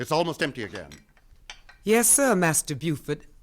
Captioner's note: glasses clink